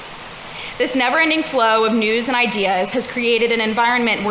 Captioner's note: none